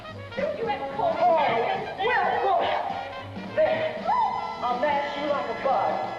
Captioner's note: jazz music plays; women bickering